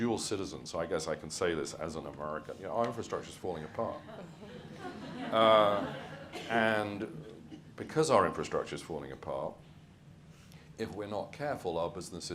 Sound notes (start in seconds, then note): 3.8 audience laughs